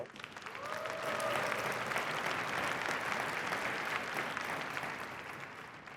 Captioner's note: applause